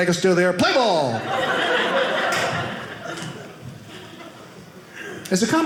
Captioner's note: audience laughing